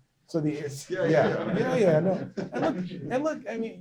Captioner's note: laughter